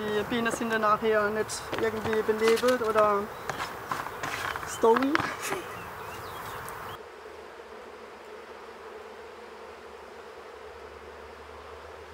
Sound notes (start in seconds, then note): 5.4 birds chirping; 8.7 humming